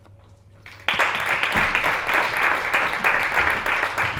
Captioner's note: applause